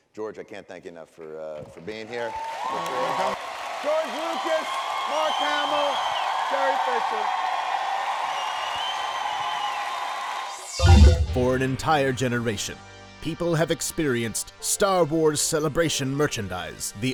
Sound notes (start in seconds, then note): 7.8 cheering and applause; 10.8 beeping